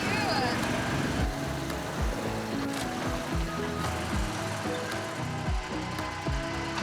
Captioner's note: lighthearted music; tank engine revving